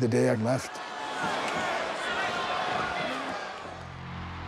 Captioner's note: crowd jeering